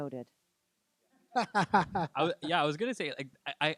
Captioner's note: laughing